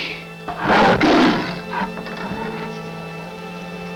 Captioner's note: growling